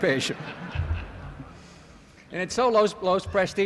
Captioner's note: laughter